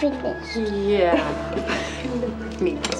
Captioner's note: chuckles